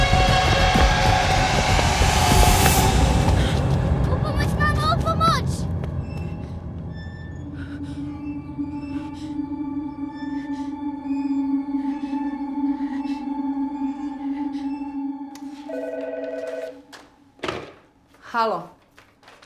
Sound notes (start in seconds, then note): 8.2 tense music; 15.6 phone rings